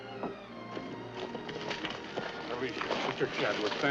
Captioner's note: bodies scrambling